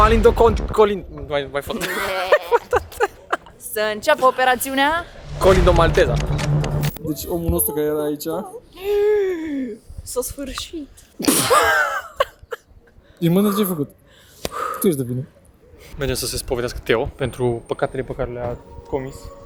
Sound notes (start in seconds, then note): 1.7 laughing; 11.2 laughing